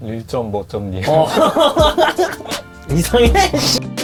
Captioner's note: laugh